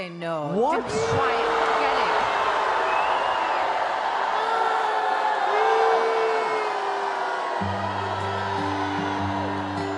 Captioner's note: crowd Boos